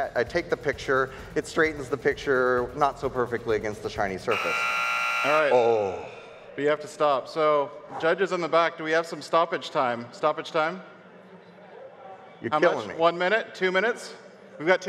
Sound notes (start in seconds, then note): 4.3 buzzer sounds; 11.4 audience murmurs